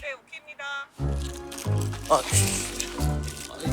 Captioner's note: rushing